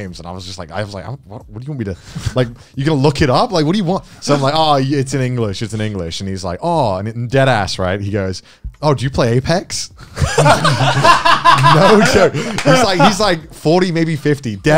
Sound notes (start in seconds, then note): 10.2 everyone laughs